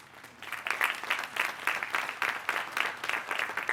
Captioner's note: applause